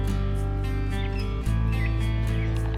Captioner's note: birds chirping